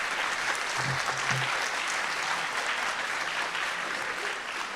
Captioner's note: audience applauding